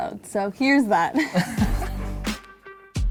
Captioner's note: laughs; funky music